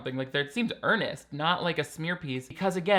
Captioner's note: none